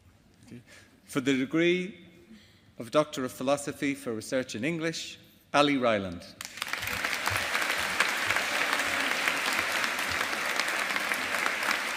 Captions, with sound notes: For the degree of Doctor of Philosophy for research in English, Ali Ryland. (AUDIENCE APPLAUDING).